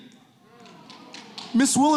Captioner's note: audience clapping